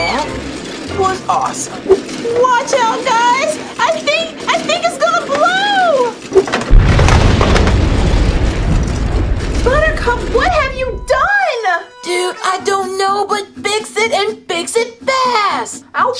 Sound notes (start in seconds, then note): 0.0 high-pitched scream; 6.6 explosion